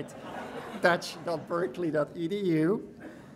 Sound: audience laughing

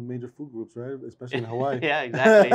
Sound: laughs

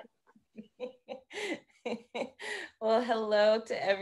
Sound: laughing

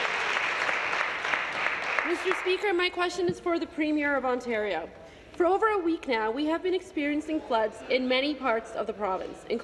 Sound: applause

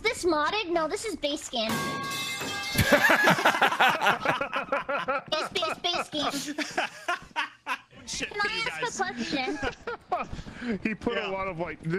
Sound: metal pipe falling noise

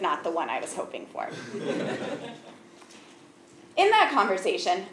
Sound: laugh

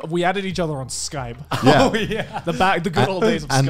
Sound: laughing

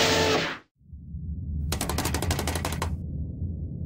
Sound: typing

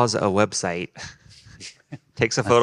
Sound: group laughing

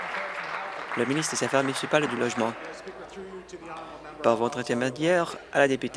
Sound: applause

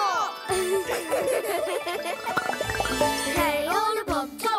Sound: Olobobs laugh

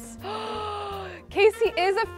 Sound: gasps

